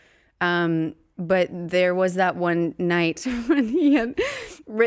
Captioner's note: laughing